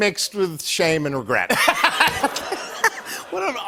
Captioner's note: laughter